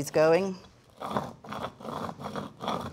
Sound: spices grinding

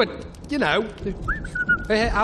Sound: whistles

